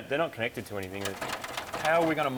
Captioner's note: wires rattle